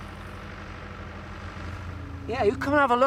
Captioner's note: excavator engine revs